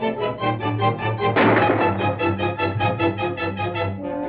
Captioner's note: gunshots